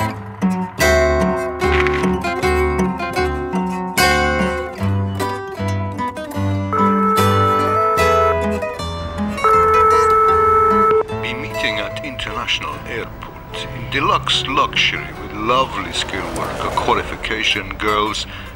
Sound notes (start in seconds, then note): 6.7 phone ringing